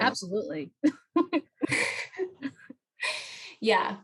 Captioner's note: laughter